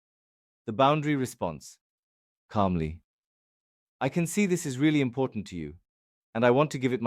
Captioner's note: calmly